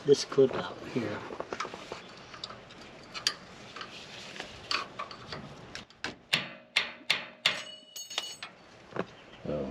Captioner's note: metal hitting concrete